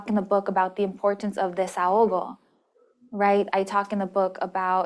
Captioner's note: spanish